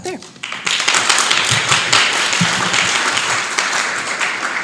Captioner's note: applause